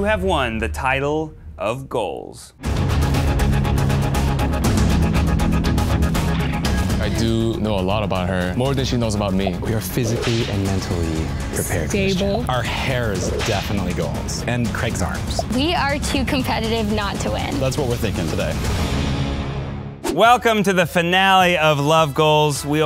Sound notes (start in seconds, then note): 0.3 voiceover; 2.7 suspenseful action music; 7.1 voiceover; 9.7 voiceover; 15.4 voiceover